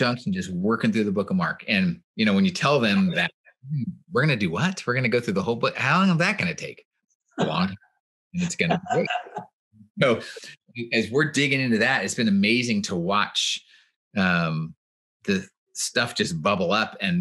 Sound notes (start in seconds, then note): 8.4 laughs